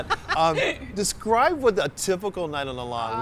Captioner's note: laughs